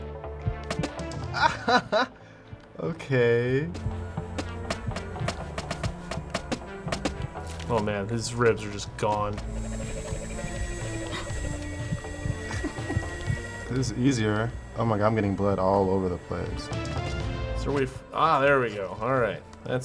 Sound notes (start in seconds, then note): 1.3 laughs; 4.3 bones chipping away; 10.9 gasps